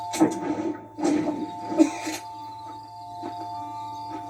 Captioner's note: cough and leaves the camp